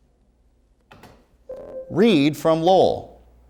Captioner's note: ringing